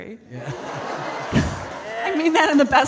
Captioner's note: audience laughing